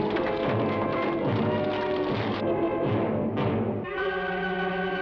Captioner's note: horse hooves patter